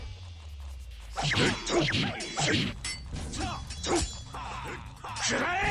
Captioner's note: fighters grunting